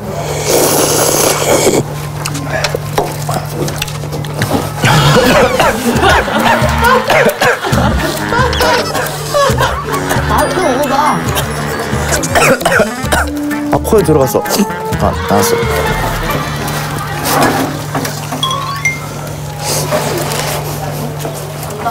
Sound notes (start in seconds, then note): 0.0 starts with the sound of slurping deliciously; 4.7 suddenly chokes